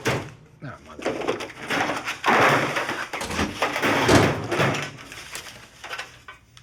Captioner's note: drawer knock